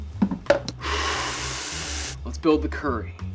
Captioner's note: exhales